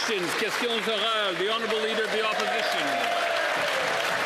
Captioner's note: some Applause